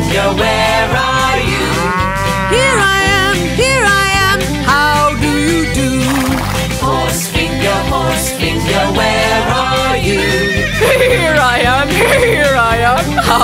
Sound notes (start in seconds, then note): 1.5 cow moo-ing; 5.7 horse whinney; 10.4 horse neighing